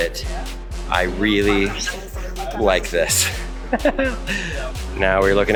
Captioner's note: laughs